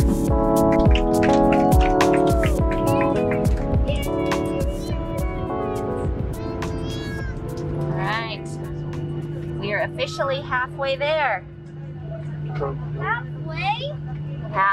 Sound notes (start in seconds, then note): 1.2 people cheering